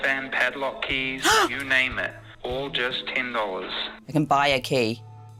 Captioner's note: gasps